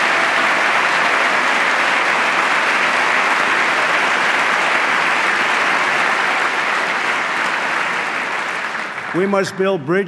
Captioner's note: applause